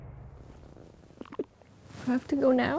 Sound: gulps

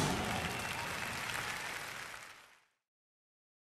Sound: audience applauding

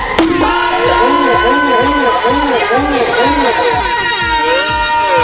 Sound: contestants chattering

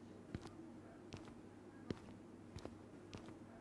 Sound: footsteps returning

